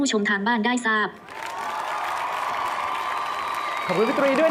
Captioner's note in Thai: เสียงเอฟเฟกต์ปรบมือ